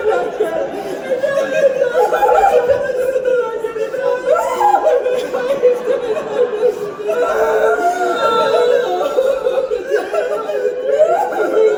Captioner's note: crying